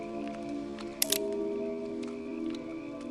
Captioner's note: gun clicks